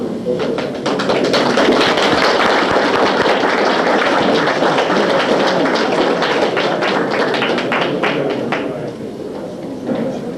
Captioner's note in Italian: Applausi